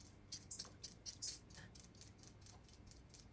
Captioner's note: peeler gliding